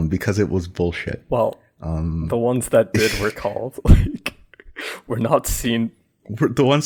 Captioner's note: laughs